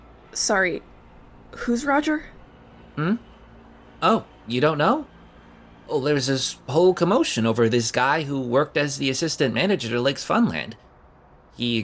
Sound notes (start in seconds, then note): none